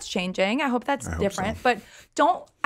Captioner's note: laughs